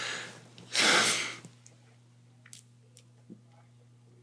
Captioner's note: exhales